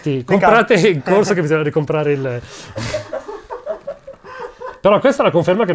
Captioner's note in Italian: risate fuoricampo